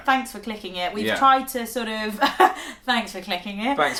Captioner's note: laugh